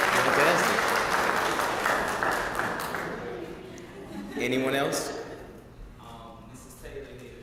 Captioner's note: applause